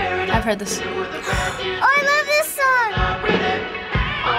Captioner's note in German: Keuchend